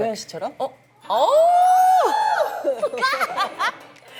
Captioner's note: awww!